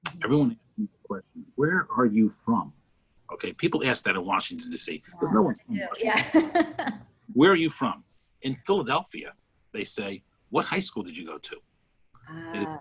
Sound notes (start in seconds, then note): 6.9 laughs